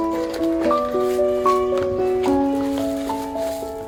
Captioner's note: paper slicing; box shuffling; paper ruffling